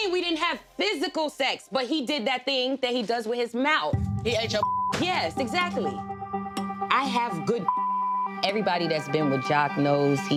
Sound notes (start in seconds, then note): 4.4 beep; 7.6 beep